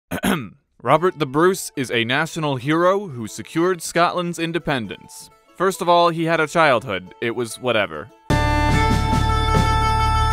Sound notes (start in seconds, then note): 0.1 ahem